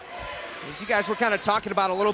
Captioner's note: fans chanting